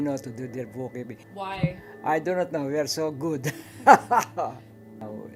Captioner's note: laughs